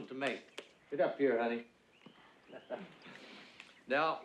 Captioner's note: chuckles